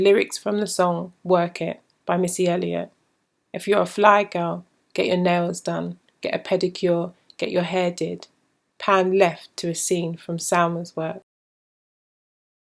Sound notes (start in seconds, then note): none